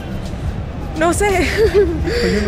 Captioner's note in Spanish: Risas